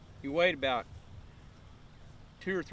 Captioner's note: none